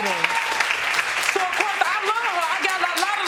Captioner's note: audience applauding